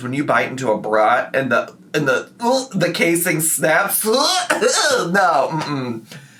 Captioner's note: gags